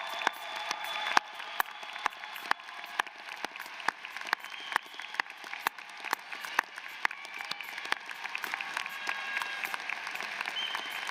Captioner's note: applause